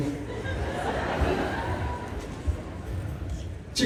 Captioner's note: laughter